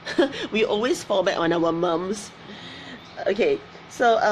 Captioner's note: laughs